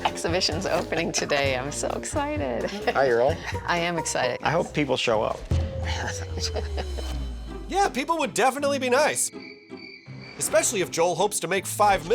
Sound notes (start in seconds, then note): 5.8 chuckling